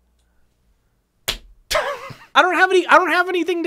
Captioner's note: laughing